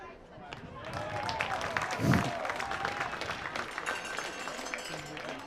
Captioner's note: applause